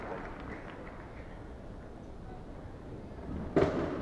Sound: applauding

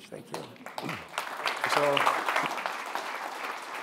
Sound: clapping

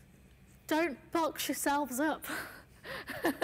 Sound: laughs

